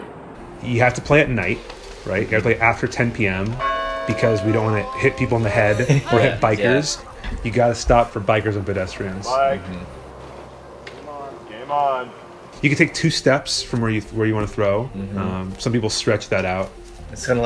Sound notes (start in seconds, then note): 4.2 bell dongs